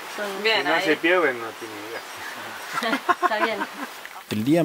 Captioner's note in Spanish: risas